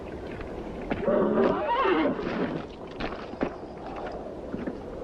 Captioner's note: horse neighs